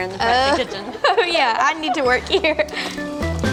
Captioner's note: laughs